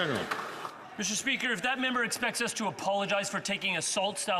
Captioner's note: some Applause